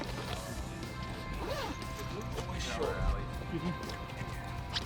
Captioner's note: crew chatting